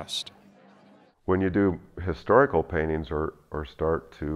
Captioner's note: voiceover